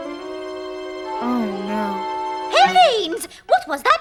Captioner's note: gasps